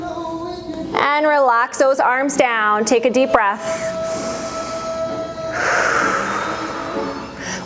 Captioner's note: breath